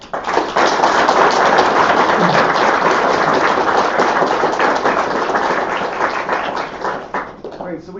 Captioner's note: applause